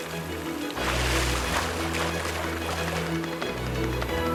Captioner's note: water spraying; lively music